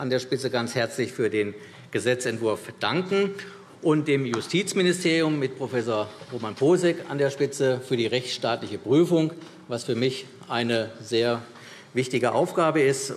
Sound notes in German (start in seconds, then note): none